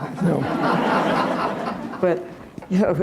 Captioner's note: laughter